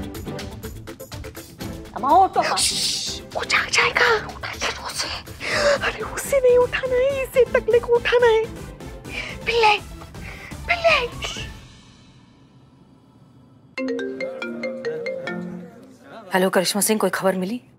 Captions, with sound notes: - Are you an idiot? - Shh! It'll wake up. So let him wake up. We don't want it to wake up. We need to wake this baldy up. - Bille. - Shh! [mobile ringing] Hello, Karishma Singh. Any news?